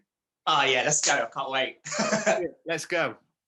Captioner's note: laughs